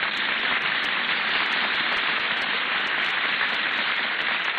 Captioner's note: applause